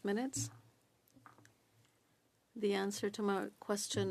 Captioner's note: speaking French